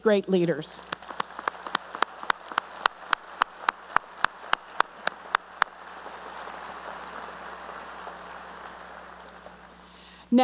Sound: applause

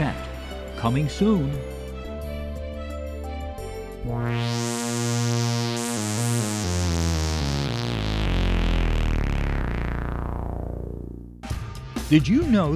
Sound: sound Effects

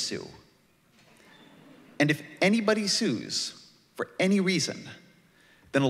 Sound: laughter

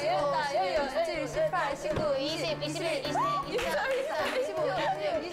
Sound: she can't stop laughing

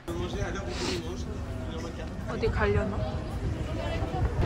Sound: as if… sniffling already

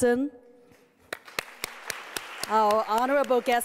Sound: applause

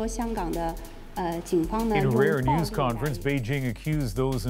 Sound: speaking chinese

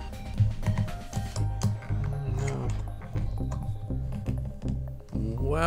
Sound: stressed popping sounds from ring

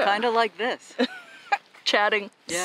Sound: laughter

